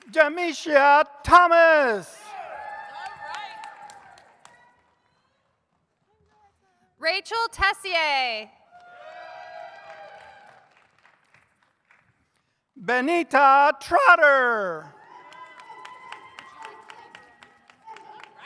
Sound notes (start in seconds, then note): 2.2 audience cheers; 8.7 audience cheers; 14.8 audience cheers